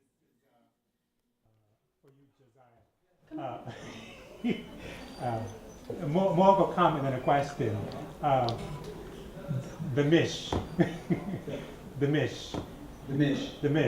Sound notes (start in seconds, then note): 3.3 laughter; 8.4 chuckles